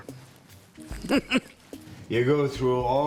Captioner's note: chuckles